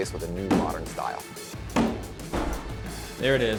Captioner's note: door banging